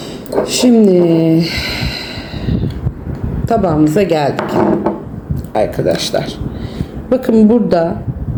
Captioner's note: sighs